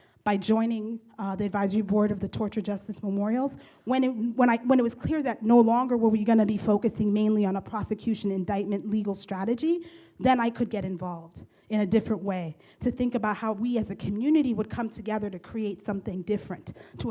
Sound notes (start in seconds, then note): none